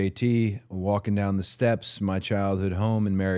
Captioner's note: none